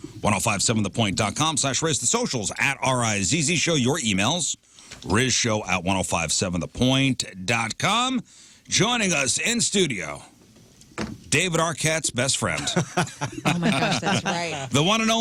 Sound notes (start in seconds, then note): 12.5 laughing